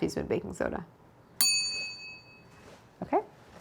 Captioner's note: bell rings